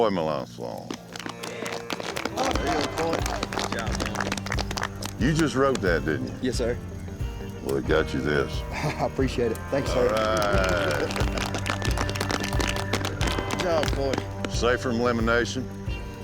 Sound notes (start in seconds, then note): 0.7 applause; 11.7 applause